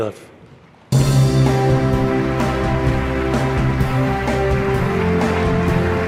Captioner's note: inspirational music; audience applauds